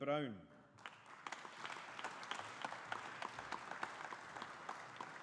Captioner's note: audience applauding